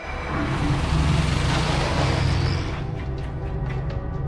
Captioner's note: rolling tires; suspenseful music